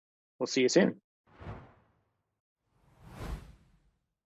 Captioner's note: whooshing sound